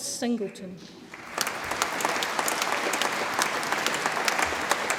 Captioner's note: audience applauds